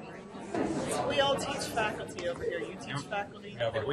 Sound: voiceover

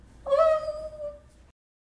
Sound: delighted squealing

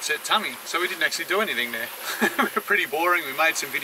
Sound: chuckles

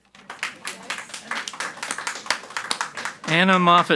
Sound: audience applauds quietly

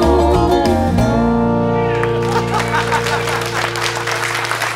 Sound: cheers and applause; laughter

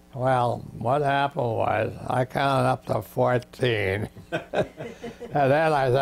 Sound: laughs

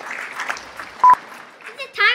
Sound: audience claps; beep

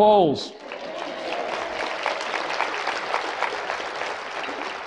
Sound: congregation applauds

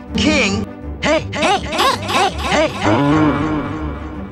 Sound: deep voice

